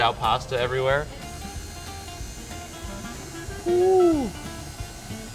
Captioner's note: quiet mechanical whirring